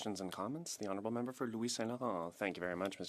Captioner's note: speaking French